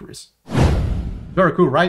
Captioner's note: air whooshing